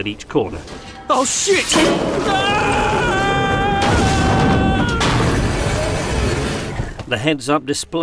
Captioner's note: screams